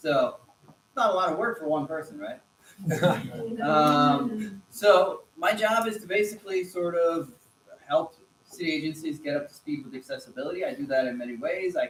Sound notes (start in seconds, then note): 2.8 laughter